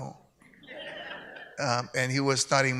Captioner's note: audience laughs